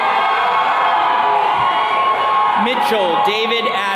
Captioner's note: attendees cheering